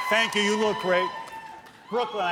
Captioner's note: cheers and applause